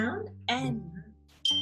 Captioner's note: bell chimes